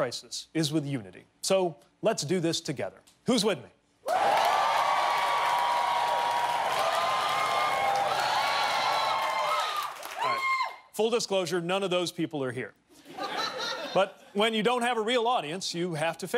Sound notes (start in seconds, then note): 6.3 cheers and applause